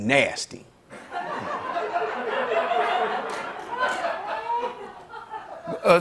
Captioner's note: laughter